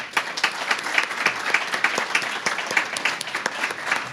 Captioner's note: applause